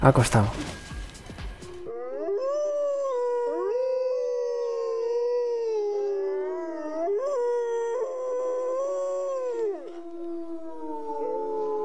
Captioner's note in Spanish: aullido lobo